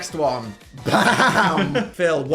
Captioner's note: laughs